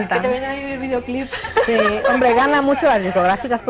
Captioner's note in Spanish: risas